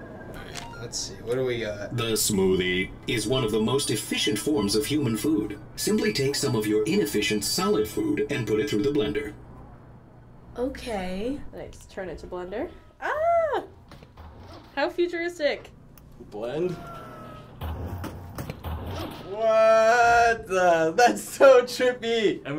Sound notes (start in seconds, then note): 16.7 whirring noise